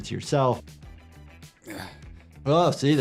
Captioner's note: character grunting